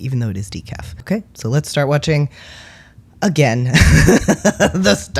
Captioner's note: laugh